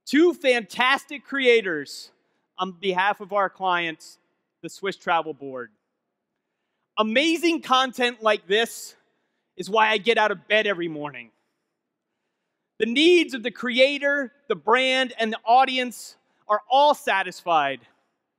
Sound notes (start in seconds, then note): none